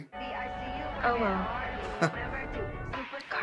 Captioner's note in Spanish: risitas